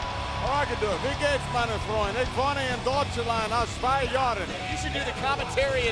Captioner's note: speaks in foreign language